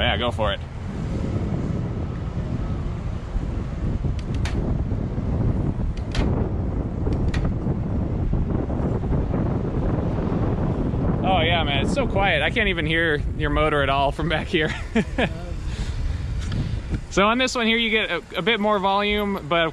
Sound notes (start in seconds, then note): 1.7 wind gushing; 4.3 gears clicking; 6.6 wind gushing; 7.6 gears clicking; 9.3 wind gushing; 14.6 chuckles